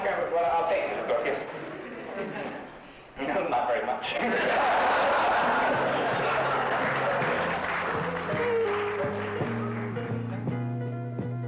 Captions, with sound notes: How much cranberry, well I'll taste it. Not very much. (laughing) (laid-back music)